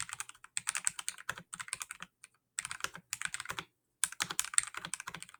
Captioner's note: keyboard typing